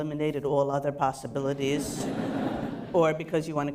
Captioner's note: laughter